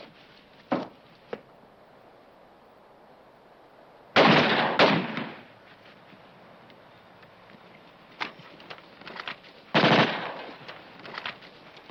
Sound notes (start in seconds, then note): 4.1 gun firing